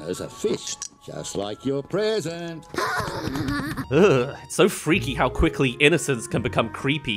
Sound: shudders

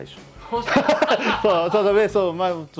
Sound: laughs

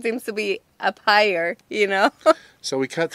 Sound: laughs

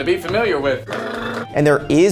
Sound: B. Dylan blubbering

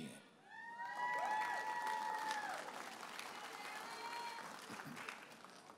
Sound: audience applauding and cheering

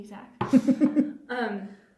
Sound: chuckles

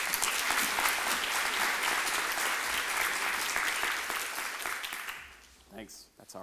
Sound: applause

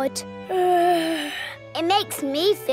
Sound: yawns

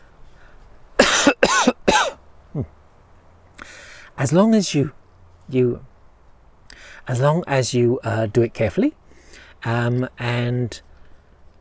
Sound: cough

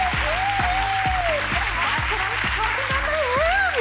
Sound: crowd applauds

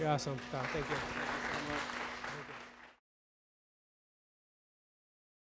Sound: audience clapping

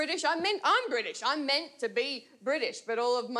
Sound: none

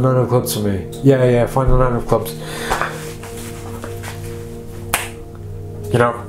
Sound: snaps fingers

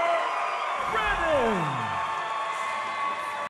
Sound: crowd cheering

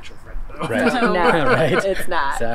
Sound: laughs

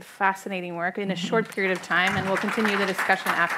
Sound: audience applauding

